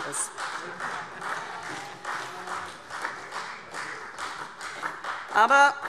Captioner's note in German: Beifall CDU